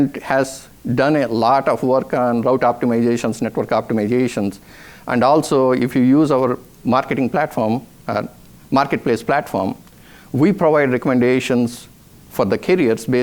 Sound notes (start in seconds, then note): none